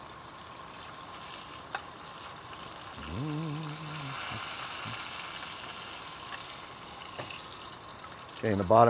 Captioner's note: sizzling